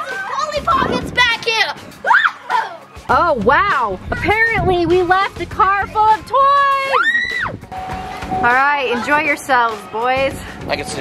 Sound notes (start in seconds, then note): 2.0 screams; 6.8 girls screaming excitedly